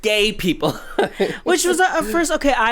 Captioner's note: laughs